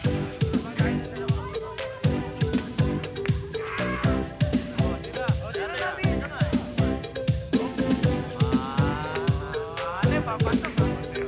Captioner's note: chattering